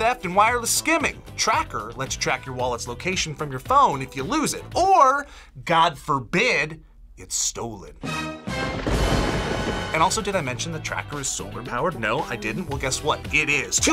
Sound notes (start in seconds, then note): 8.1 tense music; 8.5 thunder crashes